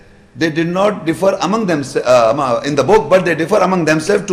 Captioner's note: Arabic